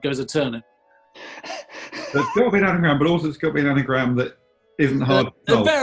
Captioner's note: sniggering